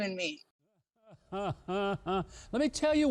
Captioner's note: Huckabee chuckles sarcastically